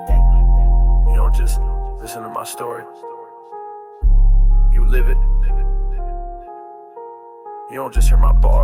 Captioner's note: faded Outro – Whispered & Echoed Spoken Word